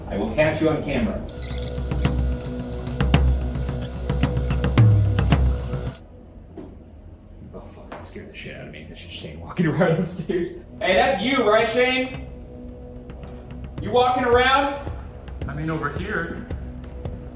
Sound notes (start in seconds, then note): 1.2 tense music; 1.3 videotape squealing; 9.6 laughs